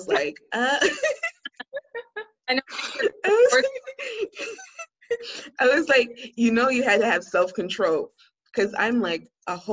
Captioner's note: laughter